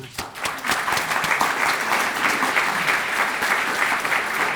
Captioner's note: audience applauding